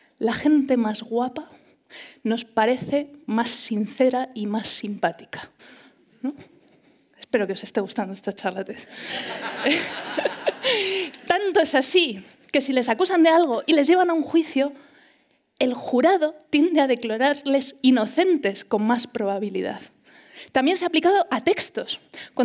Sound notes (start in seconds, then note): 8.9 laughter